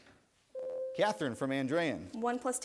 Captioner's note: bell rings